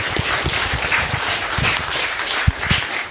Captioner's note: crowd applauding